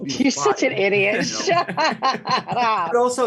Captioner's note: laughing